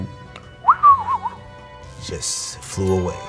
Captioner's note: whistles